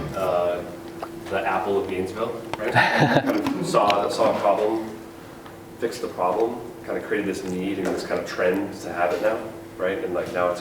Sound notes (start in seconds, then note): 2.6 chuckles